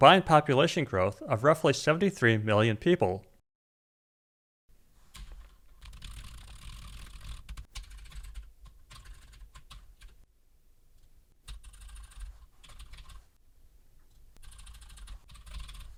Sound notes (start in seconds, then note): 5.0 typing sounds